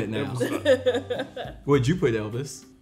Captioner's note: laughing